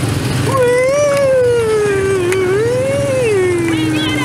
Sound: woo-ing sound effects

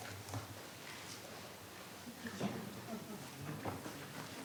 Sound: speaking faintly

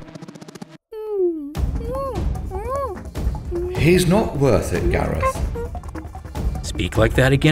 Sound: ape noises

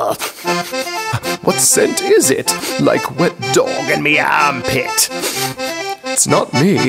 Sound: sniffs around

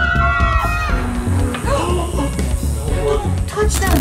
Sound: all screaming; electricity buzzing

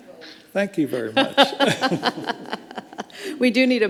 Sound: all laughing; laughs

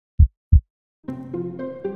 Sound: heart thumping; playful music

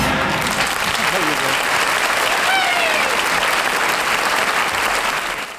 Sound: audience applauding

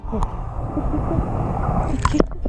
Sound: muffled underwater

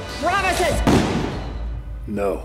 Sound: gunshot

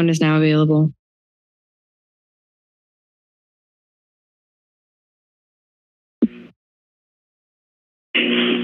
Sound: silence

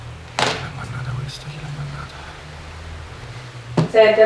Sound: whispering

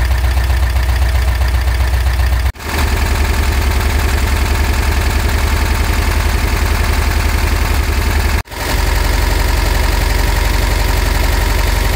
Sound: sounds of high idling engine

